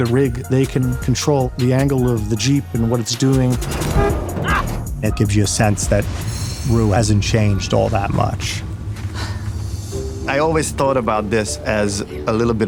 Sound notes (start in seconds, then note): 3.3 car horn blares; 9.1 rue sighs